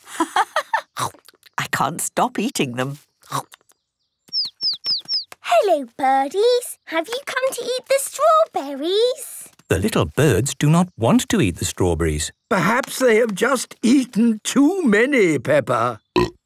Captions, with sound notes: - (laughing) I can't stop eating them. - (chirping) Hello birdies! Have you come to eat the strawberries? - The little birds do not want to eat the strawberries. - Perhaps they have just eaten too many, Peppa. - (burp)